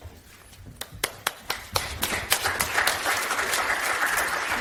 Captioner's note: audience applauds